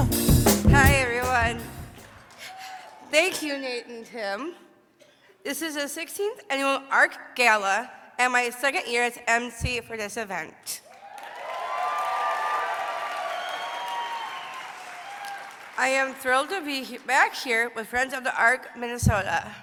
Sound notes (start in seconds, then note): 13.0 applause